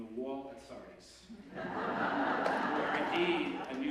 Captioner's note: laughter